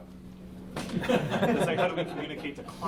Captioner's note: laughs